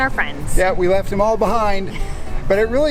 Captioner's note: chuckles